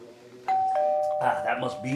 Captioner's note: doorbell rings